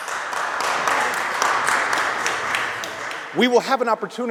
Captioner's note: applause